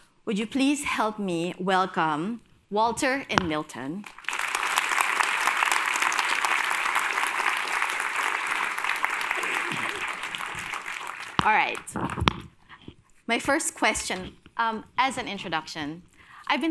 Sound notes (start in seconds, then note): 4.0 applause